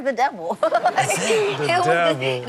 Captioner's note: crowd laughing